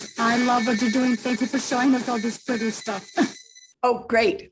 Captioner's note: laughs